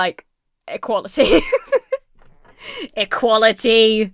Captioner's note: laughs